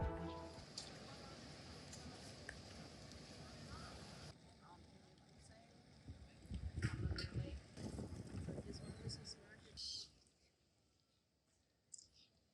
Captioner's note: Hamburg city noises